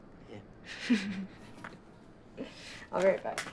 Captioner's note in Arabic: ضحك